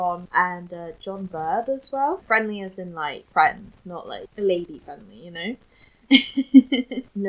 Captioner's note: laughs